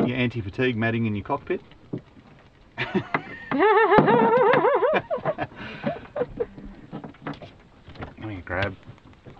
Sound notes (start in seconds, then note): 2.8 laughing